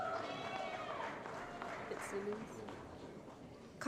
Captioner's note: applause & Cheering